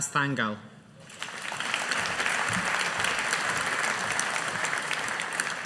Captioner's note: audience applauding